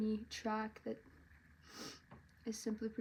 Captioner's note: sniffles